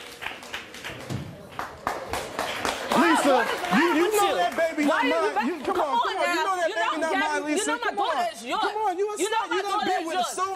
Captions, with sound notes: (yelling and arguing) - You know my daughter is yours!